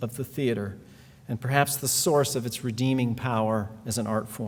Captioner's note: none